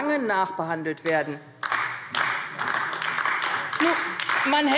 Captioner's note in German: Beifall AfD